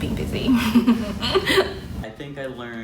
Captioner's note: laughs